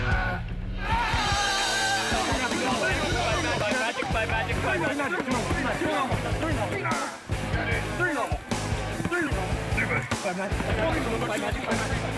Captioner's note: yelling